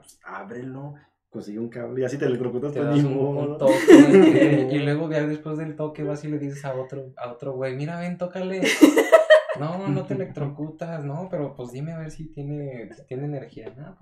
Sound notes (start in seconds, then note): 3.6 laughter; 8.6 more laughter